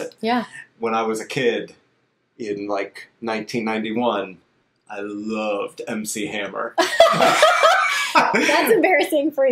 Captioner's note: laughs